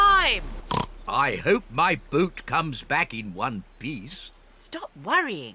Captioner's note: oinks